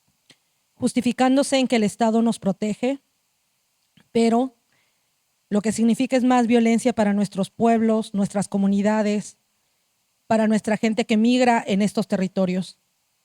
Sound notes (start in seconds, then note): 3.2 speaking Zapotec language